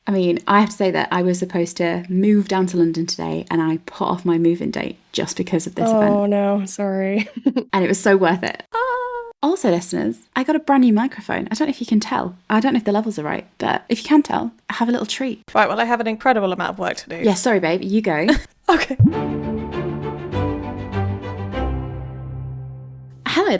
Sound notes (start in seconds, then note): 19.0 bloop; 19.0 upbeat music